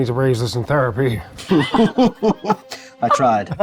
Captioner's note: group laughs